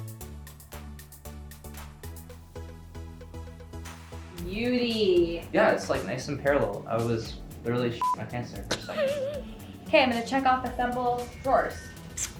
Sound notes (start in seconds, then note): 0.3 upbeat pop music continues; 8.0 beep; 8.6 chuckles